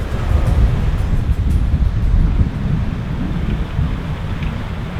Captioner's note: wind whipping